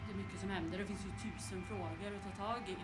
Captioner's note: background sound from meeting